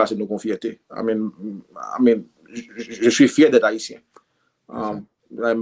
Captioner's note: in french